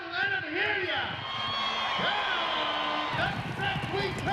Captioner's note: cheering